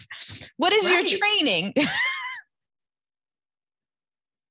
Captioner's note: chuckles